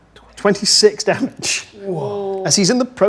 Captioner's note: laughs